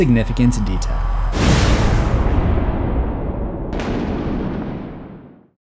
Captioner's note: impact